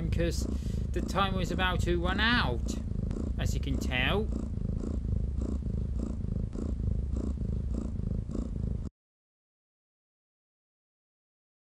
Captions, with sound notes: cause the time was about to run out as you can tell. [JESS SNORING SOUND]